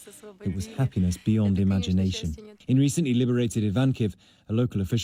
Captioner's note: speaking foreign language